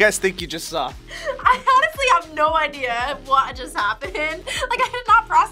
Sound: laughs

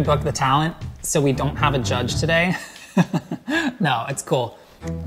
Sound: laughs

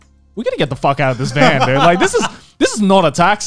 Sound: laughing

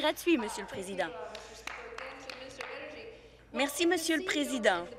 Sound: applause

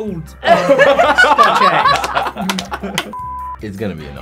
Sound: Jaboukie and interviewer laughing

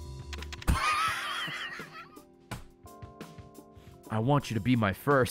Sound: laughs

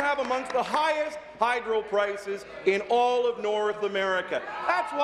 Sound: applause

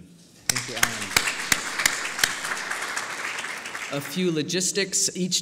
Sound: applause

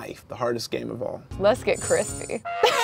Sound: trumpet buzzes; laughs

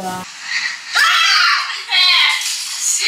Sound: scream

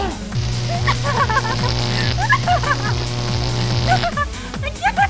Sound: ticklish Laugh

